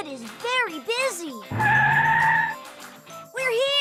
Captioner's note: tires screech